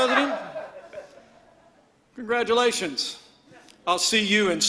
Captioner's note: laughter